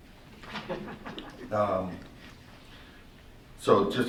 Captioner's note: laughter